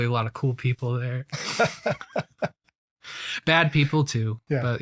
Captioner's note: laughs